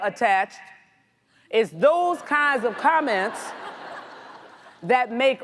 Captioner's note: audience laughs